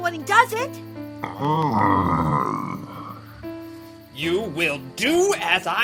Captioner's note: Lumber Axe groaning